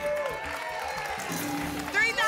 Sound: applause

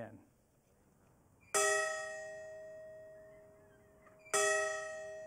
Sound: bell ringing

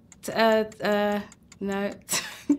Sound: stammering; laughing

